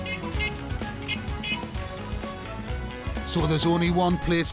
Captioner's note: rhythmic honking